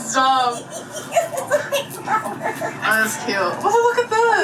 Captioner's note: mom laughing